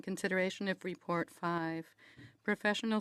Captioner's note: speaking French